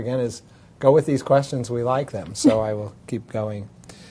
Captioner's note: laugh